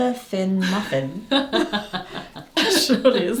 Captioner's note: laughs